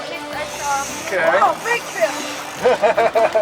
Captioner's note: laughing